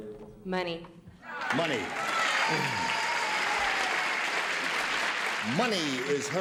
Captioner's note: cheers and applause